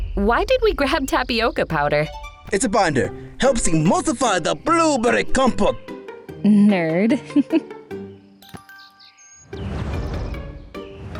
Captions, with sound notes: Why did we grab Tapioca Powder? It's a binder. [with an accent] Helps emulsify the blueberry compote! Nerd… [giggles]